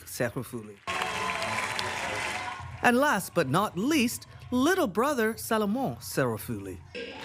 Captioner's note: cheering and applause